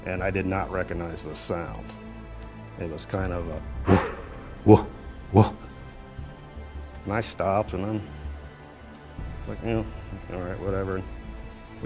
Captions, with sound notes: and I did not recognize the sound. It was kind of a (mimics creature) And I stopped, and I'm like, all right whatever.